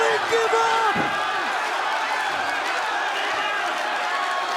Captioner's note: crowd cheering